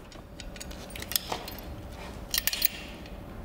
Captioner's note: metallic sounds